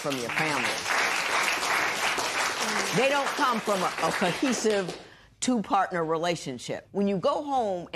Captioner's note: applause